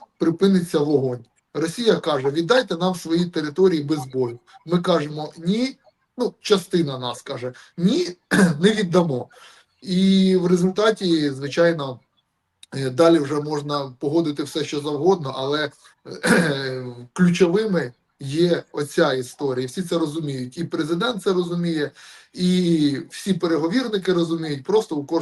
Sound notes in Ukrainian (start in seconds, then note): 8.2 прочищення горла; 16.1 прочищення горла